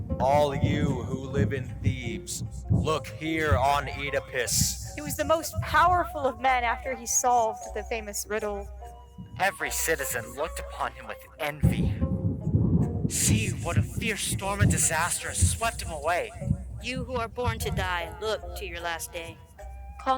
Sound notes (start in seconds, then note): 0.0 gentle music; 11.8 thunder clapping